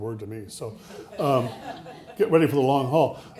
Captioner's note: audience laughing